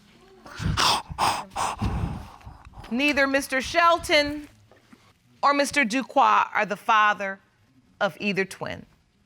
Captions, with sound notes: [sobbing] Neither Mr. Shelton or Mr. Duque are the father of either twin.